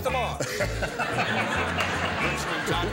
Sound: laughter

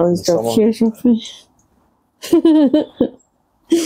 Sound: unicorn laughs

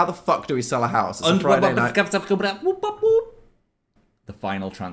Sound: Phil babbling

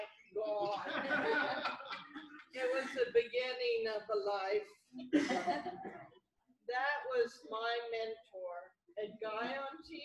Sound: laughter

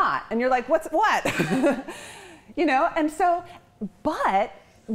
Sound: chuckles

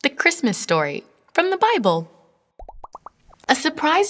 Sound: bubbles popping

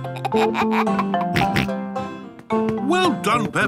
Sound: giggles, snorts

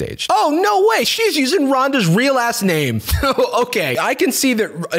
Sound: laughs

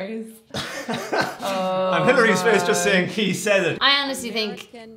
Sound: laughs

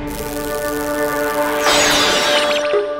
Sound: dramatic music playing; electricity crackling

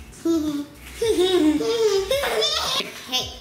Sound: laughing

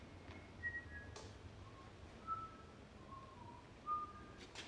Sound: melodic whistling

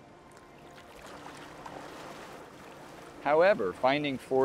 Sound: water sloshing

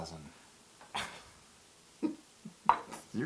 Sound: laugh

